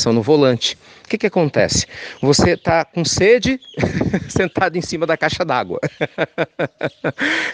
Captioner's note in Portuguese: risos